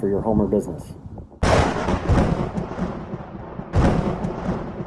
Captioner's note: thunder cracking